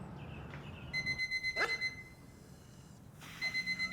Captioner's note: alarm clock beeping; dog barks